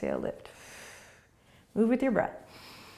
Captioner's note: exhaling; breathing